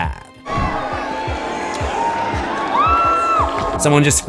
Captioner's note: screams